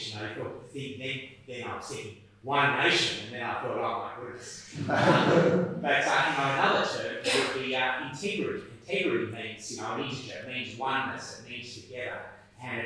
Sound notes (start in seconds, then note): 4.6 attendees laughing